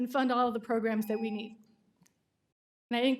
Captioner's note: timer tone